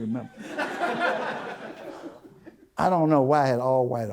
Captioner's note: audience Laughter